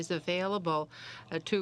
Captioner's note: speaking French